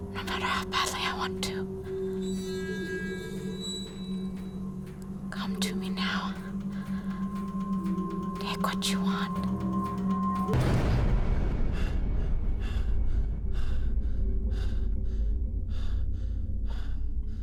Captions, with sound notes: NO MATTER HOW BADLY I WANT TO. COME TO ME NOW. TAKE WHAT YOU WANT. [breathing hard]